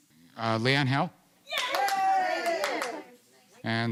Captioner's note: cheering